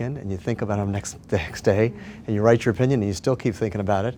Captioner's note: laughs